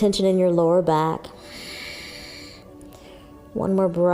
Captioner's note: exhaling